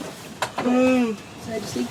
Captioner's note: yawn